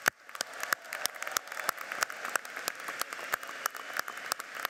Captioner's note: audience applauds